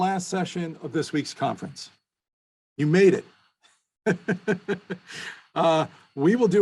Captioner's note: laughs